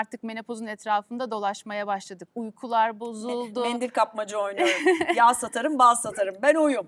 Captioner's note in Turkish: kahkaha